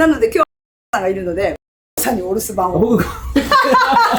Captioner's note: laughs